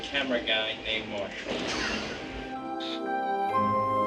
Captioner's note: laughs